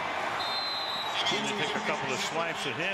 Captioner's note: whistle